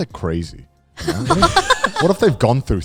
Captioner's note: everyone laughing